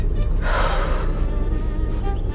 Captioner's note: sigh